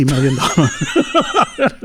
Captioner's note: laughing